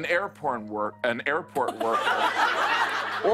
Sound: laughter

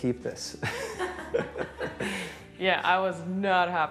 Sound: laughter

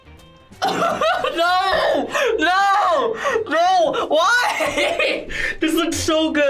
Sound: laughs

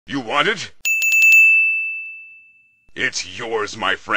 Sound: ding Intensifies

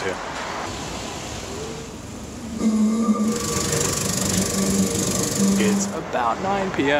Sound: tram running

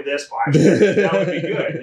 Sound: laughs

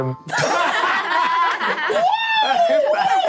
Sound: all laughing

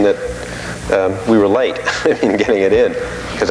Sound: laughing

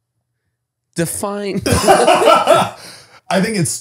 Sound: they laugh

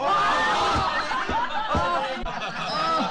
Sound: laughing

